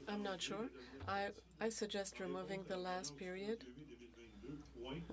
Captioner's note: speaking French